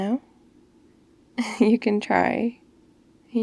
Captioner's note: laughs